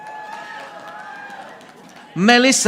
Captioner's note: audience applauding